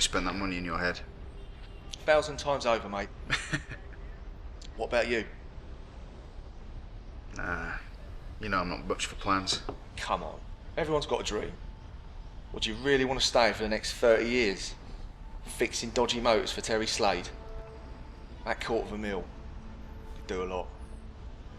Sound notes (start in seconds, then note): 3.2 Andy chuckling